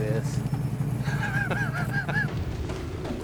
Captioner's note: laughs